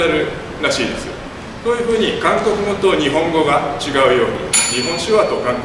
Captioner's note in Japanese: １分前のベルの音